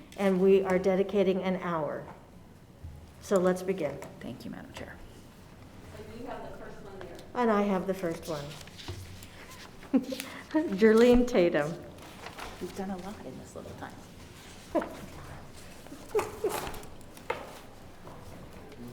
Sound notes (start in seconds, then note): 16.0 laughing